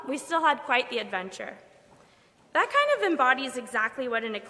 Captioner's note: none